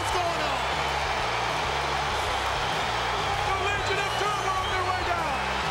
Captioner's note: applause